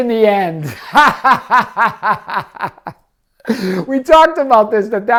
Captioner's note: laughing